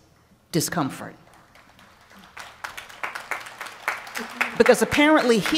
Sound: applause

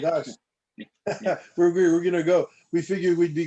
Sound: laughter

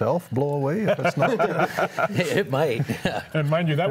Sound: all laughing

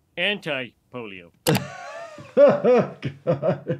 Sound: laughing

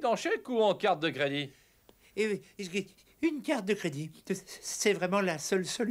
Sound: sighs

